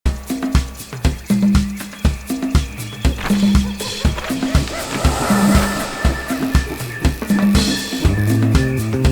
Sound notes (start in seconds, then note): 0.0 upbeat music playing; 3.4 monkeys hooting